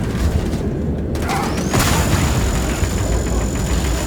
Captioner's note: rumbling